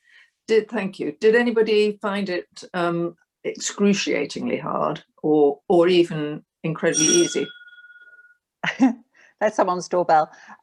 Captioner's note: doorbell sound